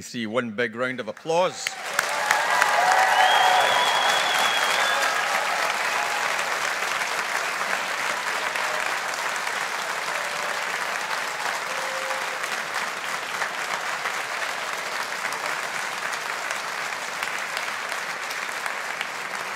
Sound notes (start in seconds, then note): 2.0 audience applauding